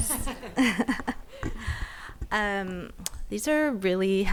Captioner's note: people laughing